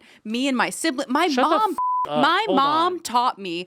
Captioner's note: beep